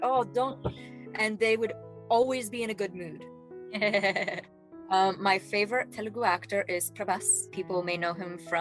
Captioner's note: laughing